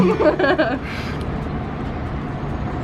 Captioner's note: laughs